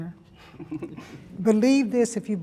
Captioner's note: all laugh